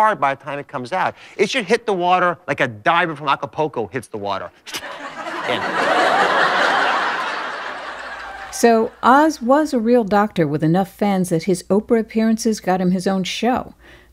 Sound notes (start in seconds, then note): 4.7 laughter